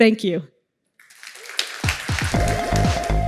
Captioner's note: applause